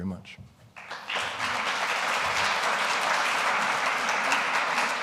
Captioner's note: audience applauding